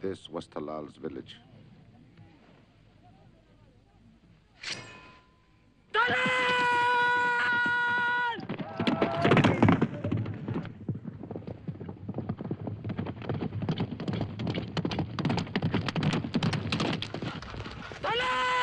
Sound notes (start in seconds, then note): 6.1 shouting in arabic